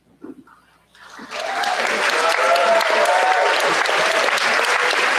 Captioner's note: cheers, applause